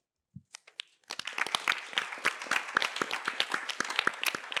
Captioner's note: applause